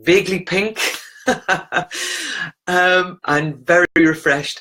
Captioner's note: laughs